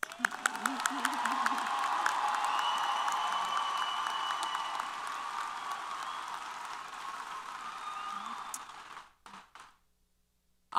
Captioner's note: applause & Cheers